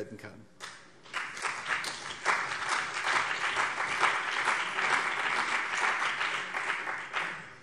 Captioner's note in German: Beifall CDU und BÜNDNIS 90/DIE GRÜNEN